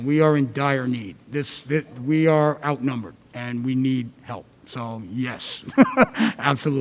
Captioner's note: laugh